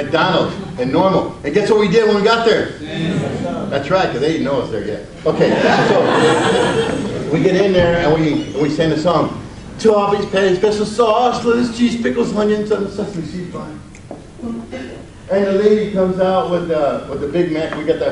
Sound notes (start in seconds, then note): 5.2 audience laughs